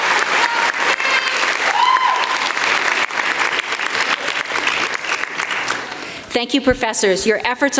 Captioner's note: applause